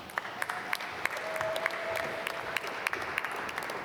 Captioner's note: applause